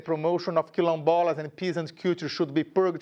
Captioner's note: speaking in a foreign language